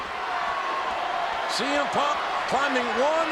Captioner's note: audience cheering